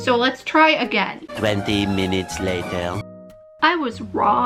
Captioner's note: male french-accented narrator voice